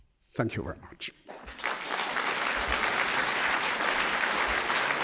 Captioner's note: applause